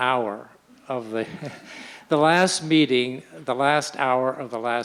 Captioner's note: laughs